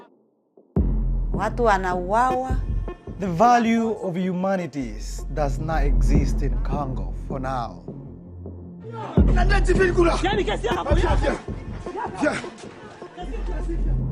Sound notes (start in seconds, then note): 1.4 speaks in Swahili; 9.2 shouts in foreign language